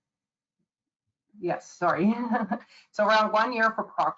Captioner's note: chuckles